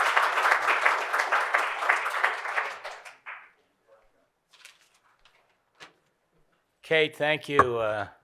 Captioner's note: applause